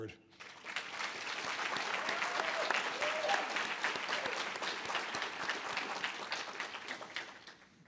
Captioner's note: audience applause